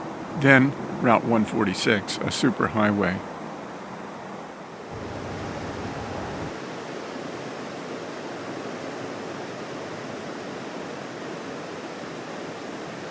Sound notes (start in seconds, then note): 4.9 river and highway sounds